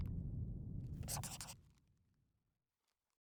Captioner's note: scribbling